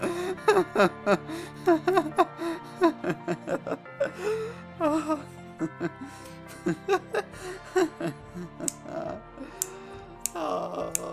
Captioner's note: hysterically Laughing and Crying